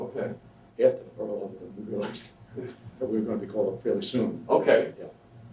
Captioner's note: laughs